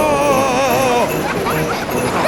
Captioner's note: screaming; children laughing